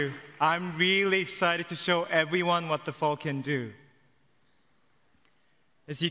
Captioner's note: applause